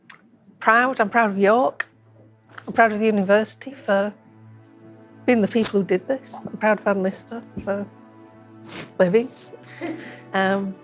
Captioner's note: laughter